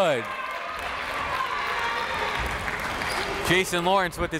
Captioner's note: crowd cheers